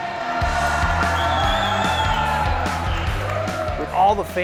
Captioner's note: music, cheering, clapping and whistling from the crowds